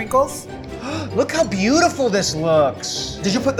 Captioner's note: gasps